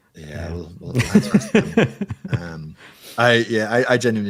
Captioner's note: laughing